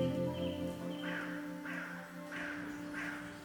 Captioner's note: crow calling in distance